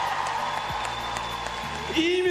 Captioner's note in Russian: ликование